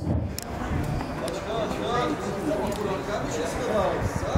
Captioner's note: voices in the street